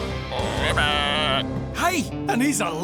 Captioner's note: croaking